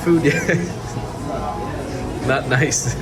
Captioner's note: laughing